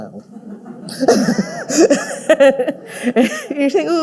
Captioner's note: all laughing